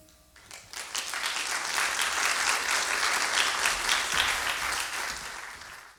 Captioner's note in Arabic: توقف الموسيقى. تصفيق